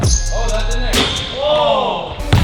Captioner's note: ball hits rim